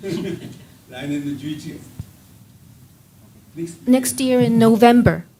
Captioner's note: speaking japanese